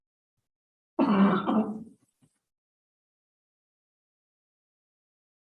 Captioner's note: participant coughs